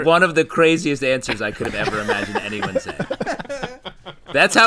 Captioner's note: laughter